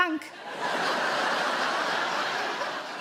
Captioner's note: audience laughs